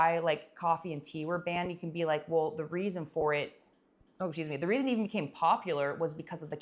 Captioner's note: burp